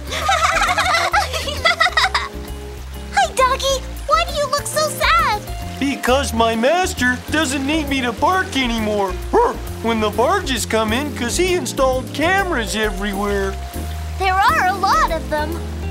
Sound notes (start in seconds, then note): 0.0 triplets laughing; 9.3 barks